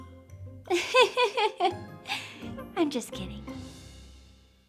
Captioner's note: light whimsical music; laughing